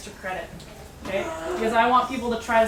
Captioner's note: groaning